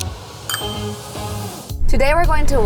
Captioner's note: label chiming